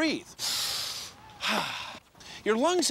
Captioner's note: inhales, exhales